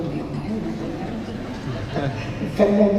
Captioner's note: laughter